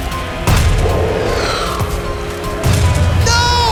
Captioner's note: ball whooshing